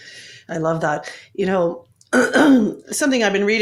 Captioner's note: coughs